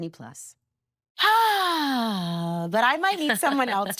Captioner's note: sighing deeply